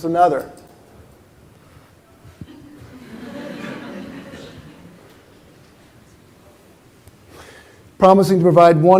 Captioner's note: laughter